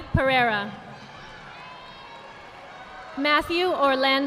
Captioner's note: audience applauding